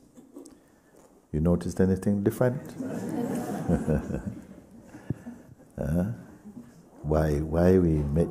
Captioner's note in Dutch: lacht; gelach